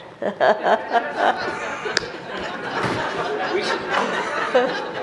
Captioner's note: everyone laughs